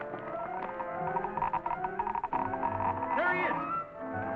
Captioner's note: machine clicking